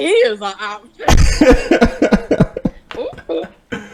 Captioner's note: laughter